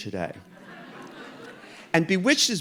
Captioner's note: audience laughing